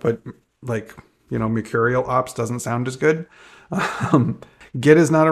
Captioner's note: chuckles